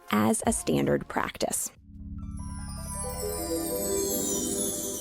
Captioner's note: dream sequence sound